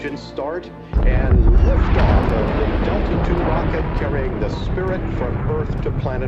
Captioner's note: loud blast